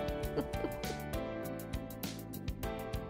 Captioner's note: laughs; light upbeat music